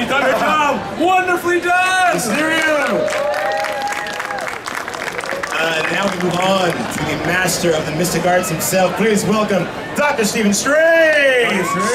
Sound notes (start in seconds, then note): 2.2 audience cheering and clapping; 11.4 audience cheering